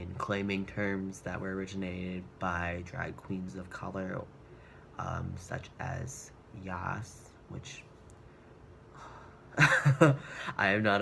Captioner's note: deep sighs